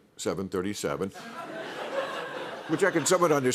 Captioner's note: laughter